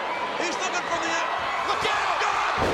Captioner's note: audience cheering